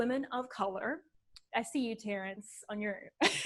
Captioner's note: laughs